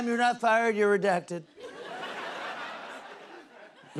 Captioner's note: laughter